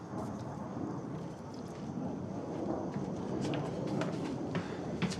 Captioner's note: airplane droning